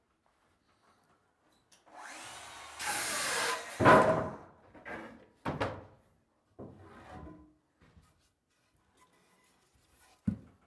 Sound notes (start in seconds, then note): 2.0 sawing sounds